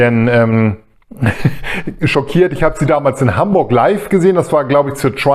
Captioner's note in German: gelächter